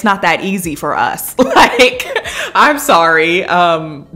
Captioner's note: laughing